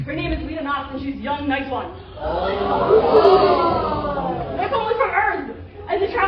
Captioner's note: surprised noises